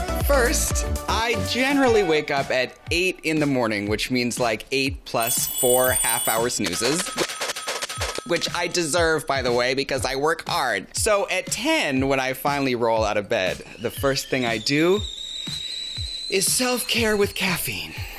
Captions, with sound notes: First I generally wake up at eight in the morning, which means like eight plus four half hour snoozes. [dings] Which I deserve by the way because I work hard. Do at 10 when I finally roll out of bed, the first thing I do [kettle whistles] is self-care with caffeine.